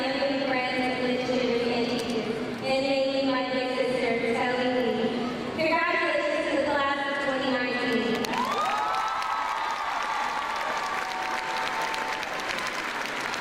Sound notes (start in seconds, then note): 8.2 crowd clapping